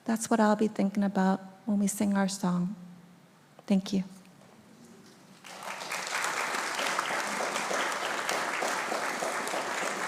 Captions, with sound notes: That's what I'll be thinking about when we sing our song. Thank you. (audience applauding)